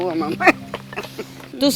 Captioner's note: laugh